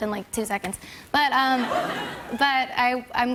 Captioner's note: laughter